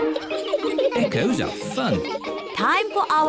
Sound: all giggling

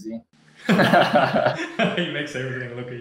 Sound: laughing

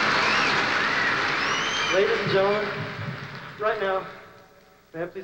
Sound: no accent

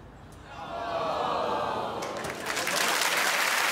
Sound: audience groans; applause

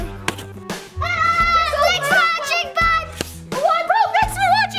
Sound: screaming

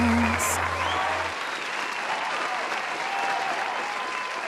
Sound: applause

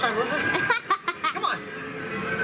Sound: laughing

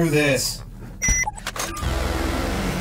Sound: device bleeps and clacks; suspenseful music intensifies

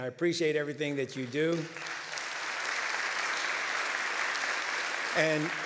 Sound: applause

